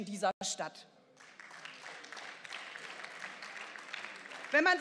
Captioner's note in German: Beifall